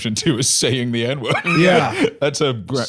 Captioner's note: laughs